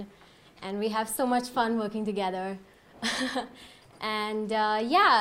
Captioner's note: laughs